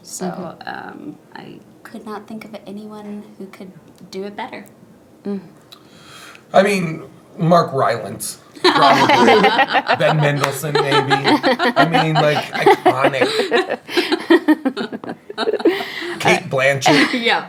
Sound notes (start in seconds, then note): 9.3 laughing; 13.6 laughing